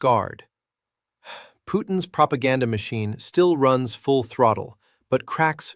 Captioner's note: sighs